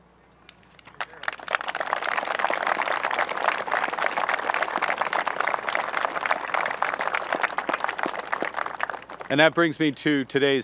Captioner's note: applause